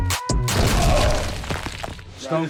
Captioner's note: body slamming; stones rattling